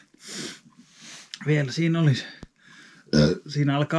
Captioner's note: burbs